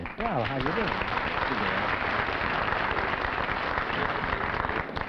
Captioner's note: applause